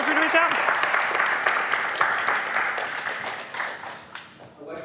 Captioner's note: applause